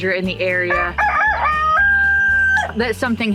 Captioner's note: rooster crows